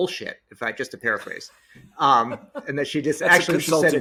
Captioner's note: laughing